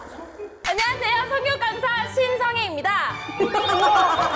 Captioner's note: sound effect of recovering mental state